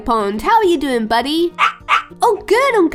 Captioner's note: Dexter barking